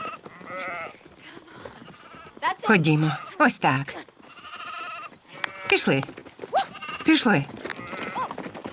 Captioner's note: clapping